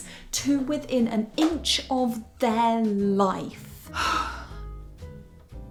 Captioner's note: sigh